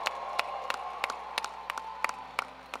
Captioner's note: cheers and applause